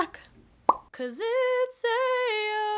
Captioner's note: pop